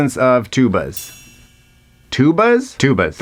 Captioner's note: chime dinging